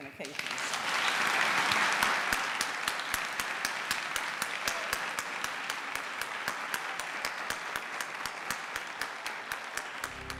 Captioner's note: applause